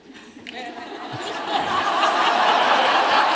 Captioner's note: laughter